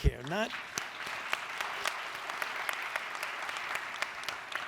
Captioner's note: audience applauds